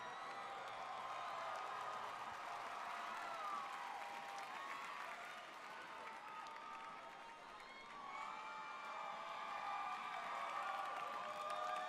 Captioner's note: cheers and applause